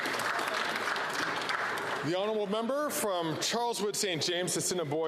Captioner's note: some Applause